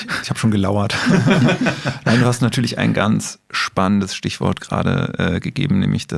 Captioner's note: laughs